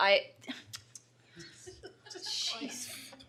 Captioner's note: laughter